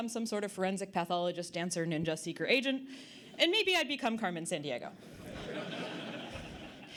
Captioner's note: audience Laughter